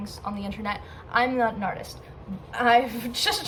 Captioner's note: big inhale